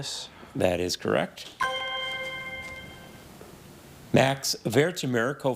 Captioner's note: chime resonating